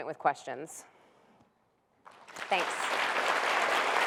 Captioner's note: applause